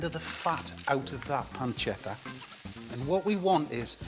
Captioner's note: pancetta sizzling